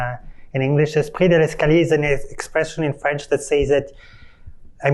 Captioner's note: non-english speech